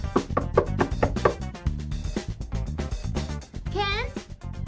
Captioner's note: Trixie knocking